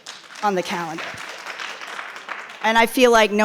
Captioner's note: audience applauding